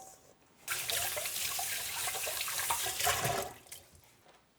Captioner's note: water splashing